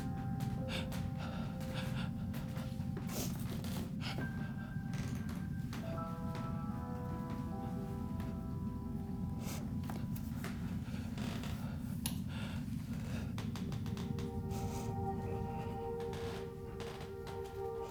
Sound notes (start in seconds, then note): 1.2 floor creaking; 1.2 gentle music continues